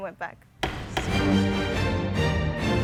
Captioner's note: gavel banging; intense music